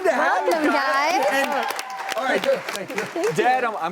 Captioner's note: applause